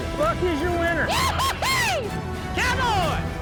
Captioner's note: shouts